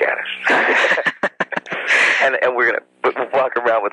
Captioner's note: both laugh